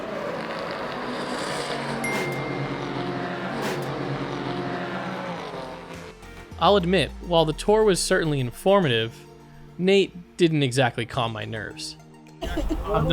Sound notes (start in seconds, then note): 0.0 engine revving; 2.0 bell dings